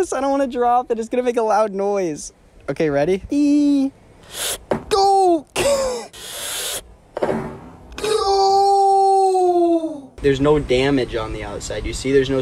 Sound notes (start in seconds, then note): 4.2 scoffs; 7.2 phone dropping